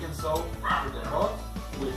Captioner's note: guau guau